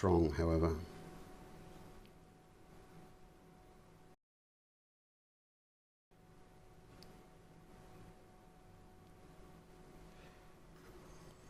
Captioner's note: silence